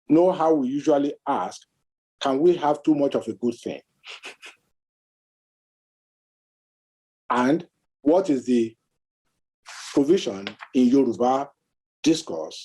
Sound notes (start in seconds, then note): 4.8 scoffs